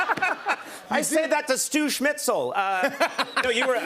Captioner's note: laughter; laughs